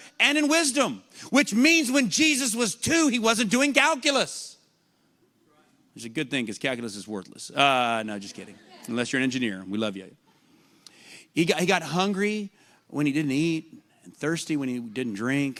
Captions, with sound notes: and in wisdom, which means when Jesus was two He wasn't doing calculus. That's a good thing because calculus is worthless. [LAUGHTER] Uh no, just kidding. Unless you're engineer, and we love you. He got hungry when He didn't eat, and thirsty when He didn't drink,